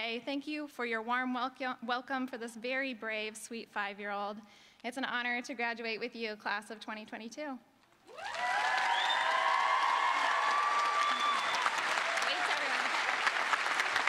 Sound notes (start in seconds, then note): 11.8 cheering; 12.6 applause